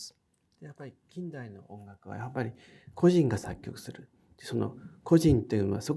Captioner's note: speaking in foreign language